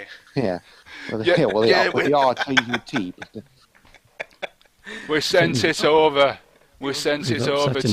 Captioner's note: Lancashire accent